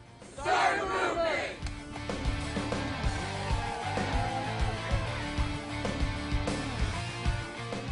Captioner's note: cheering